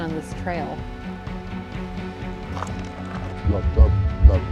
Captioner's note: birds chirping